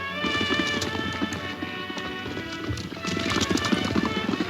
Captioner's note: dramatic music; horse hoof beats